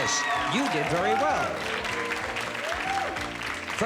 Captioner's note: cheers and applause